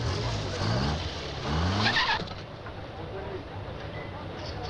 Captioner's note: engine Starts; tires Screeching